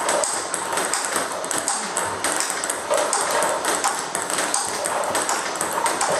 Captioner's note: ball ping pong hitting continues